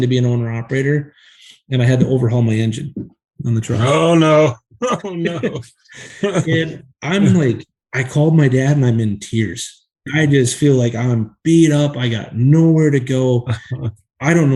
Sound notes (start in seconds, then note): 5.8 laughs